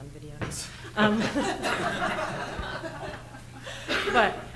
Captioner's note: everyone laughing